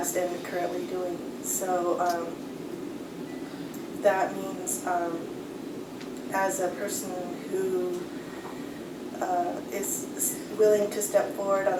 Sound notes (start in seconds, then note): none